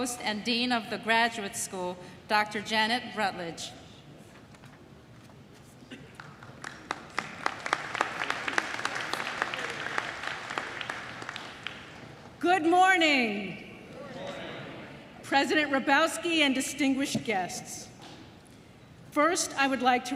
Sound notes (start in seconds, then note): 6.0 applause